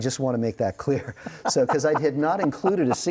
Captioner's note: laughing